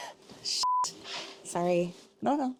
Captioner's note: beeps